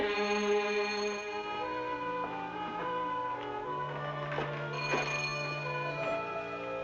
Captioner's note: suspenseful music continues; bell ringing